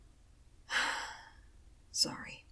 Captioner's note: sigh